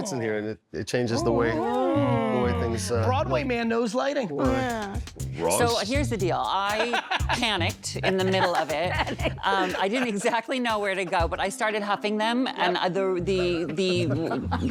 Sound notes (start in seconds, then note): 7.8 laughing